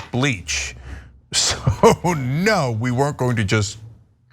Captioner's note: laugh